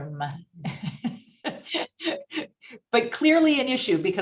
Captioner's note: chuckles